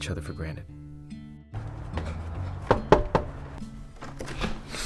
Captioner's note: knocks on door